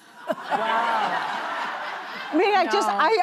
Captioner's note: laughter